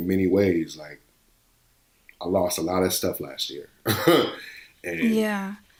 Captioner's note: laughs